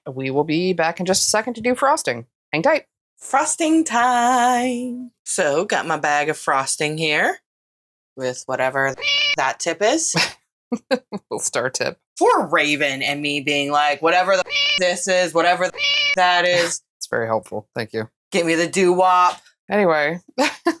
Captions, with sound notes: We will be back in just a second to do frosting. Hang tight! Frosting time. So, got my bag of frosting here with whatever the [MEOW] that tip is. Star tip. Poor Raven and me being like, whatever the [MEOW] this is, whatever the [MEOW] that is. It's very helpful. Thank you. Give me the doo wop. Anyway,